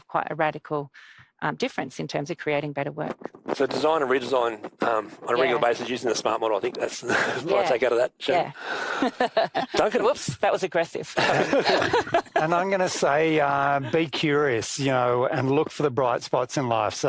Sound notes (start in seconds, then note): 11.1 laugh